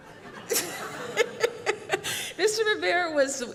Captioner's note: laughter